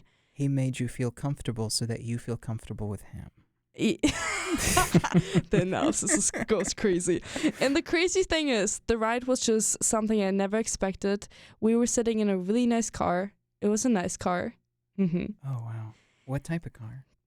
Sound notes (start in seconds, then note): 4.0 both laugh